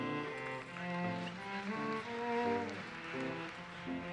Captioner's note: audience applauses